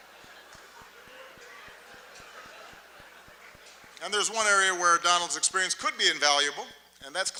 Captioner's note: laughter, applause